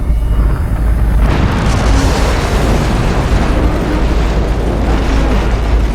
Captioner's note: explosion